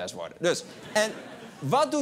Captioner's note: laugher